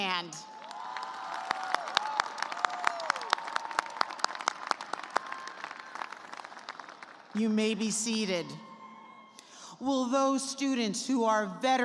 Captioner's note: cheers and applause